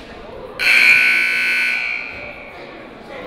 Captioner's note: buzzer